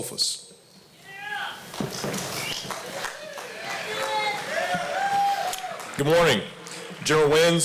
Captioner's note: applause